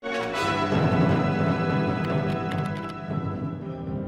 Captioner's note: upbeat music; keyboard clacking